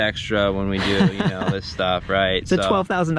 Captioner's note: laughs